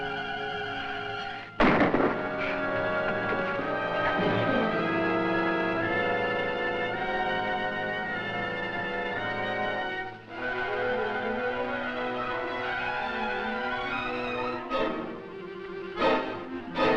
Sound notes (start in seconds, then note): 1.5 gunshot fires; 4.6 intense music